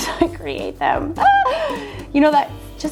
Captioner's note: laughs